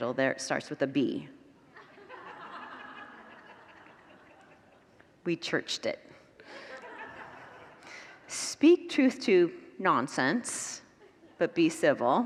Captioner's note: congregants laugh